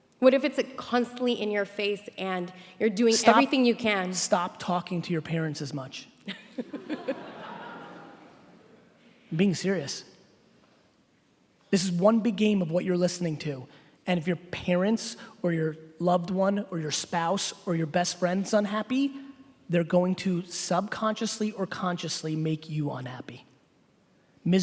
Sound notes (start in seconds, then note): 6.3 laughing